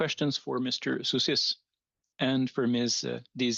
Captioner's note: speaking French